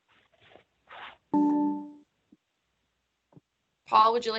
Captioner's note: zoom notification sound